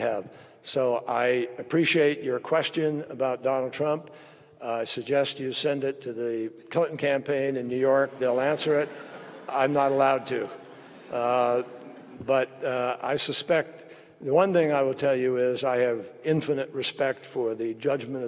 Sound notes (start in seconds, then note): 8.0 laughter